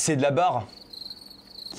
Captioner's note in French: chant de grillions